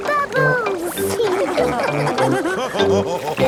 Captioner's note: all laughing